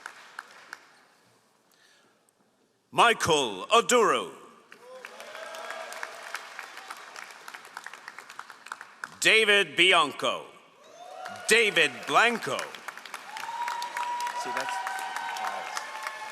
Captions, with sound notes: Michael Aduro. (all applauding) David Blanco. (all applauding)